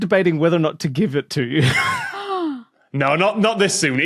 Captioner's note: wheezes